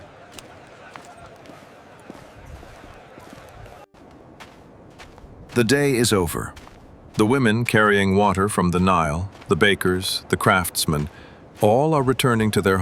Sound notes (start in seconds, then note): 0.1 footsteps